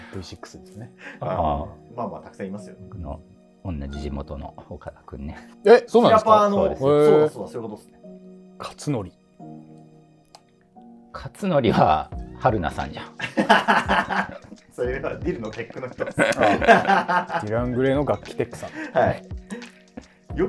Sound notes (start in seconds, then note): 13.2 laughing